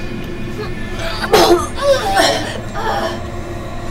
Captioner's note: grunting; vomiting